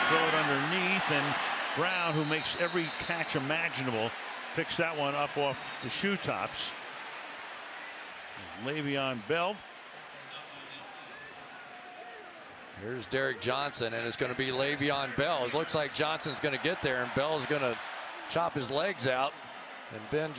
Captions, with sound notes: And Ben will throw it underneath. And Brown, who makes every catch imaginable, picks that one up off the shoe tops of Le'Veon Bell. [pa announcement] Here's Derrick Johnson. And it's going to be Le'Veon Bell. It looks like Johnson's going to get there. And Bell is going to chop his legs out.